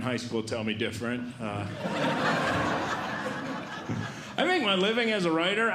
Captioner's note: audience Laughing